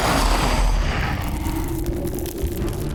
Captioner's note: growls